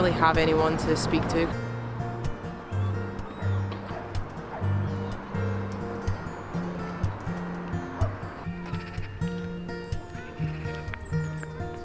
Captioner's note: birds